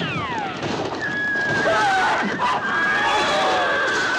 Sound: horse whinnies

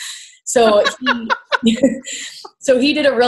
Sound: laughs

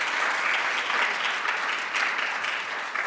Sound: applause

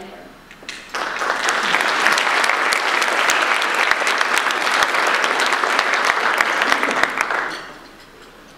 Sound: audience applause

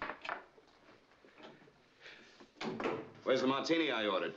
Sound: door Closes

